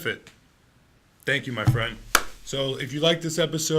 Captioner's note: slapping hands